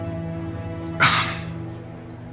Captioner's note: sighs